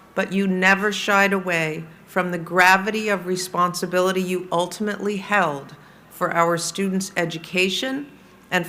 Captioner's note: none